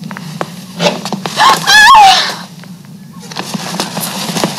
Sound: lady screams

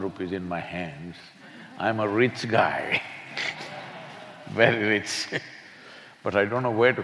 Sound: laughs

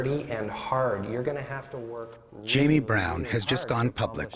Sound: voiceover

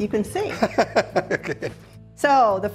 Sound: laughter

